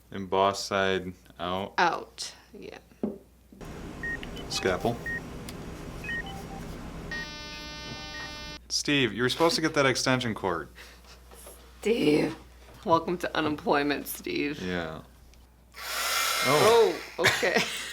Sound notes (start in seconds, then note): 7.3 flat line noise